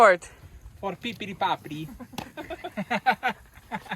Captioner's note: speaking nonsensically; both chuckling